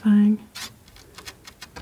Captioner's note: scratching